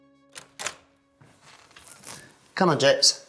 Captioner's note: door creaks